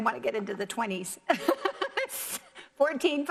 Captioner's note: laughs